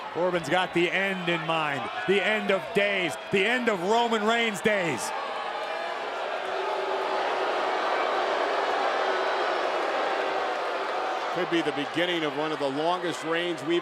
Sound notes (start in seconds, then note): 5.9 crowd booing